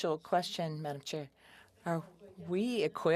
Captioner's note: speaking French